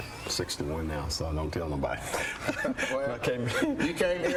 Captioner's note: laughs